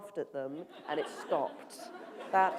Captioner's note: applause